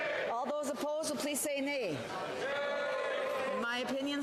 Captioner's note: speaking French